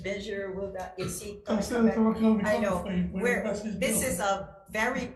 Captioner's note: member chattering